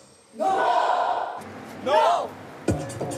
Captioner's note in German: Gruppenschrei; Treibende Musik